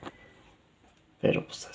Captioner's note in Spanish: Silencio